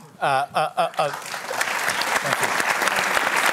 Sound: applause

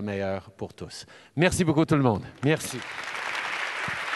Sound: applause

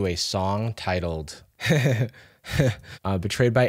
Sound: laughs

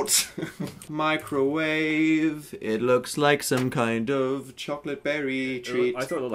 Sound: singsong

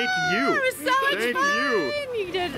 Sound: screaming

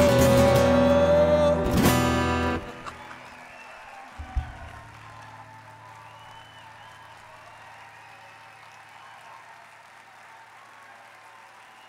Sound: applause

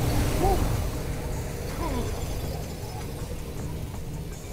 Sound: all gasp

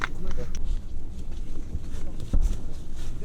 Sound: remote talking, cannonade

